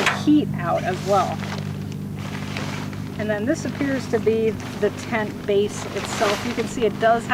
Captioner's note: crinkling